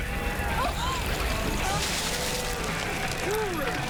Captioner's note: gasps